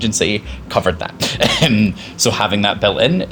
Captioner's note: chuckles